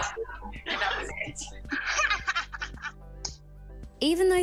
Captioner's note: laughter